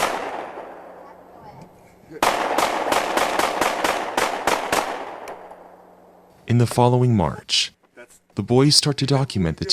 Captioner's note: gunshots